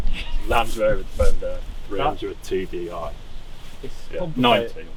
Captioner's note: indistinct chatter